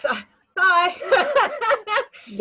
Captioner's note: laughs